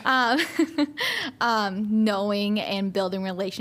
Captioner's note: laughter